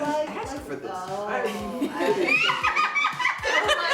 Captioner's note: Maya Cackles